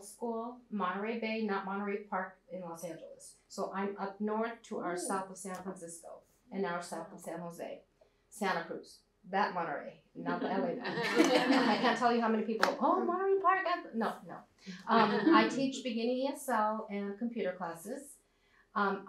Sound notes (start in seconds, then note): 10.3 laughter